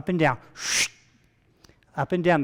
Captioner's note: vocalizing sharp sucking sound